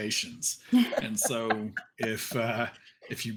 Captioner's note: actors laughing